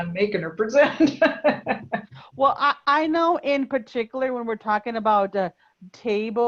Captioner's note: laugh